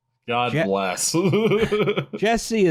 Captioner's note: laughs